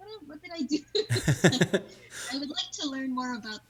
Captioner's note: laughing